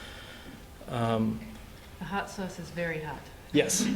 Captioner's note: laughter